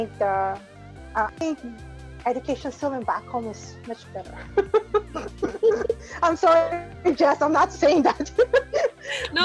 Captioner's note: laughs